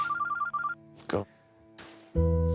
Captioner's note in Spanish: Suena el celular